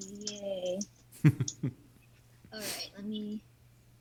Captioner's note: chuckling